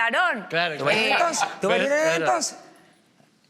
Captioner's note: canarian accent